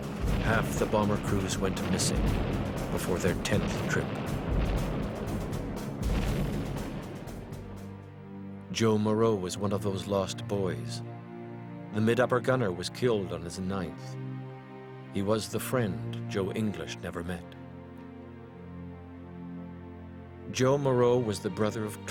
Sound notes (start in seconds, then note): 3.4 bombs exploding; 17.0 somber orchestral music